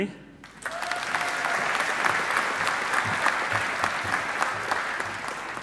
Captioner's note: audience applauding